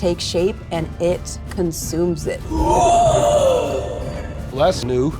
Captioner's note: screeches